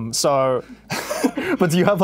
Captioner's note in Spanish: ríe